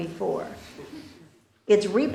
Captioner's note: laughter